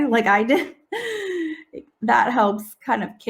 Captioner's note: chuckles